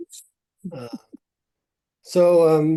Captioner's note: chuckling